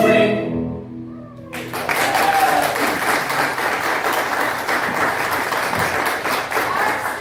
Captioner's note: applause